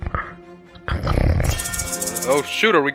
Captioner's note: snoring; pepper shaker sounds